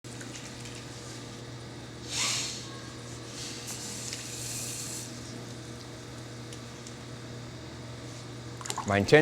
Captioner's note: whirring